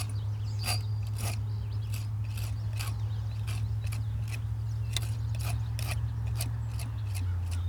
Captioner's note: birds chirping